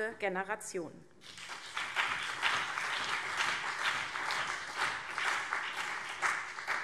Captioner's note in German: Beifall CDU und BÜNDNIS 90/DIE GRÜNEN